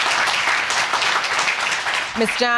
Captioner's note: audience applauding